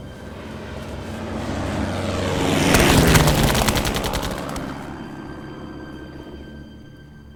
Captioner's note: aircraft whooshing; guns firing